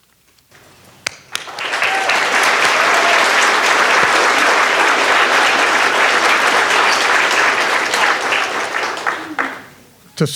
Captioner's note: all clapping